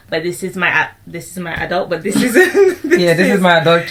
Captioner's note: laughs